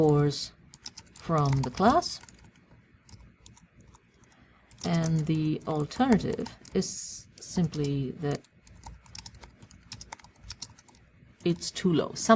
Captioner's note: pause